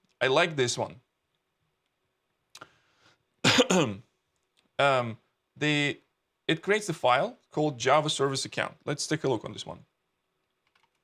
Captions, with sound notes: I like this one, (coughs) it creates a file called Java Service Account, let's take a look on this one.